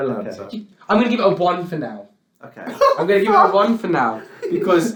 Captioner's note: laughs